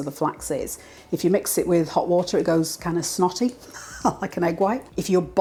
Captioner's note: laugh